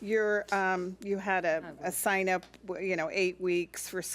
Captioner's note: speaks off mic